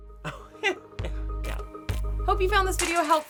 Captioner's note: laughter